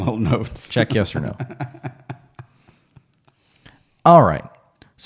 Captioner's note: laughing; laughs